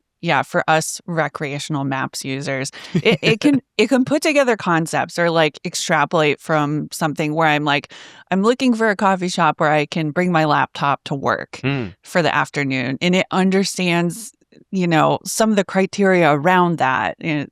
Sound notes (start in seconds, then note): 2.8 chuckles